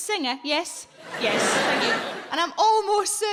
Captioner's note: audience laughing